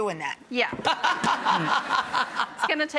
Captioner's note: laughter